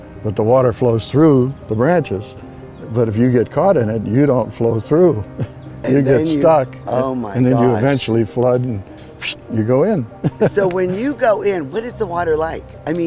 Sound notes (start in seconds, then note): 9.2 whistling; 10.2 laughing